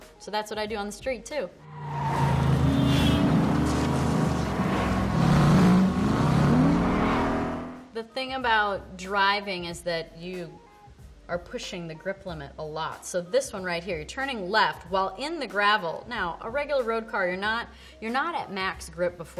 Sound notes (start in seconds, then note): 2.2 car horn honks; 5.4 car engines rev